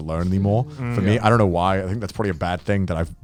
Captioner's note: guys humming in agreement